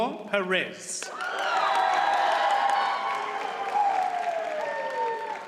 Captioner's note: audience cheers and applauds